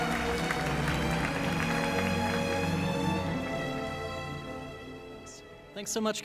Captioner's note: applause